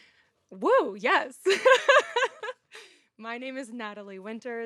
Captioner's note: laughs